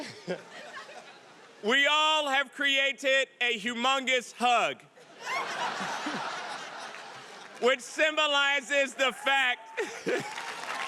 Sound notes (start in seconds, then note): 5.0 audience laughing; 9.6 audience applauding; 9.8 laughs